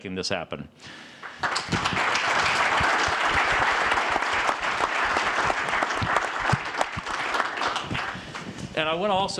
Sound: applause

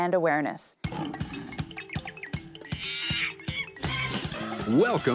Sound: animal noises

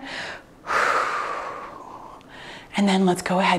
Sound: exhales heavily

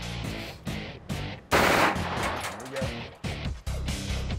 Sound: rapid gunfire

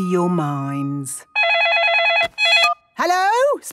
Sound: phone ringing

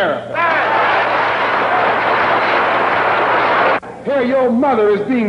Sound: applause

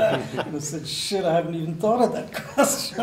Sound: laughter

